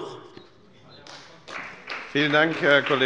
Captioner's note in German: Beifall bei der SPD